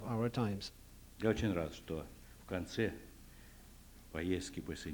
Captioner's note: non-english speech